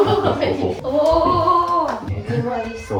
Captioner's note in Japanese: 笑い